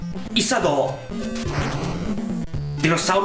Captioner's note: fwoosh